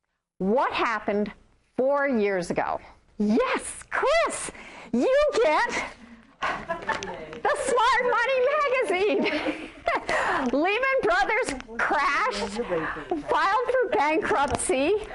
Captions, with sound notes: What happened four years ago? Yes! Chris, you get [class laughs] the smart money magazine! [Laughs] Lehman Brothers crashed, filed for bankruptcy.